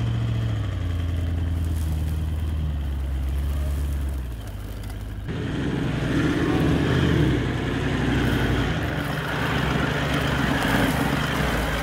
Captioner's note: vehicle sounds